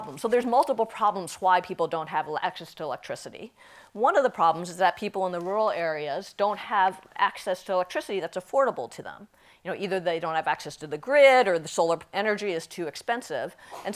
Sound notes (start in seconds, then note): none